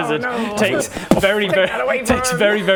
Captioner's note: boof!